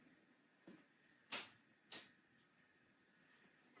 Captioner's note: spoon hitting counter top